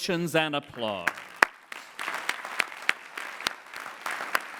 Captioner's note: clapping